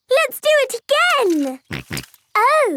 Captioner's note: snorting